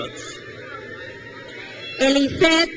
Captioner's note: crowd cheers